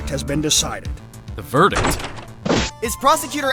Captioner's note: door opens!